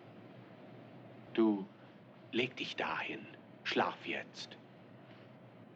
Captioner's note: German